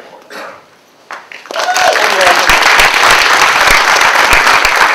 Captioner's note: applause